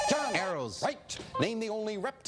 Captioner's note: beeping